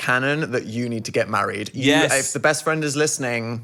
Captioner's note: none